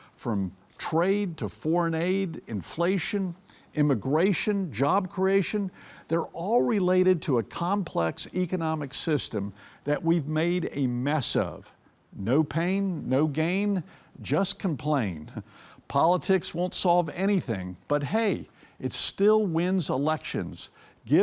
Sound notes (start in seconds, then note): 15.2 chuckles